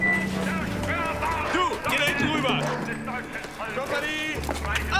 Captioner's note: speaking german; speaking german